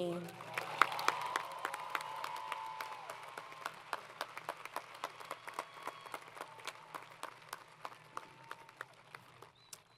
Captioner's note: applause